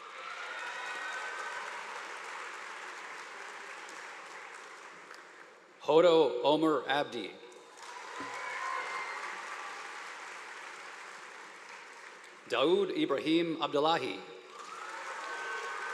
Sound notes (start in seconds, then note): 0.0 crowd cheering; 7.8 crowd cheering; 14.5 crowd cheering